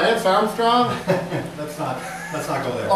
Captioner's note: laughs